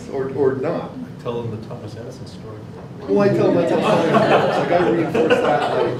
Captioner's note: laughing